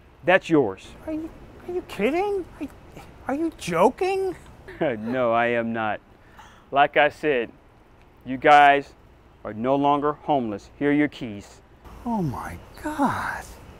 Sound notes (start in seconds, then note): 4.0 laughs